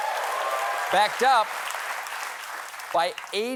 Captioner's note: cheers and applause